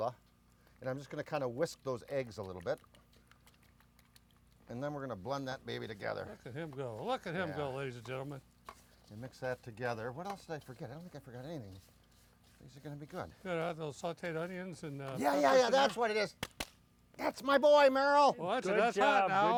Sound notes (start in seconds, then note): 16.4 claps